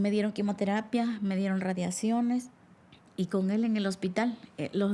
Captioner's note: woman speaking Spanish